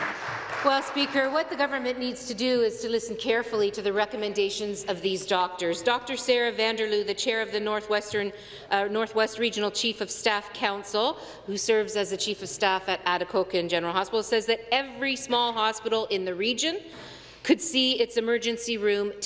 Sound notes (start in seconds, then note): 1.5 applause